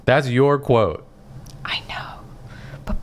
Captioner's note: whispering